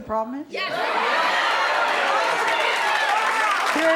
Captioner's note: audience cheering